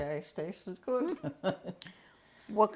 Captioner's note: laughs